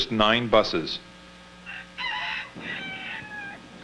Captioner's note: rooster crowing